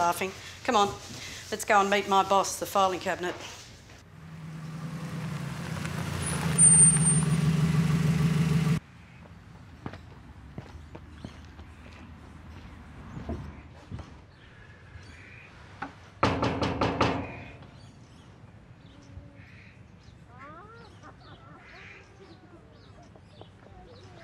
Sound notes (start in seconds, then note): 10.6 birds chirp; 21.0 laughter comes from the distance